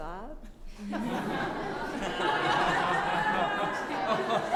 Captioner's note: laughing